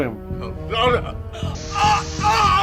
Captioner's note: screams